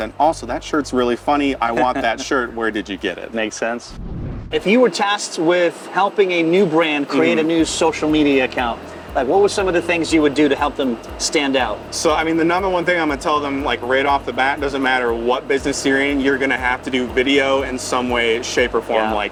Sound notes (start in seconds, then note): 3.8 scene whooshing